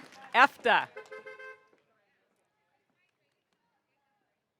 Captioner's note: car horn honking